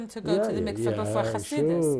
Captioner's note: non-english